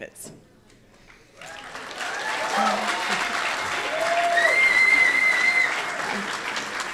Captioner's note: audience applauding; audience cheering